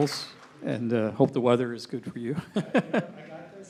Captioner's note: chuckling